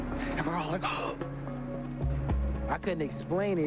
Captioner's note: gasping